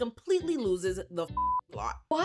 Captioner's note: beep